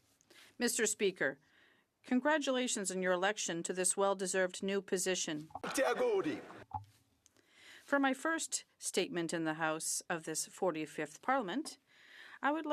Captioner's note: some Applause